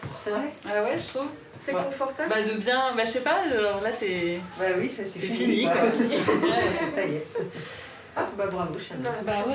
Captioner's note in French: rires